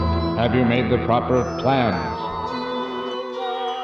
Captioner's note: robotic Voice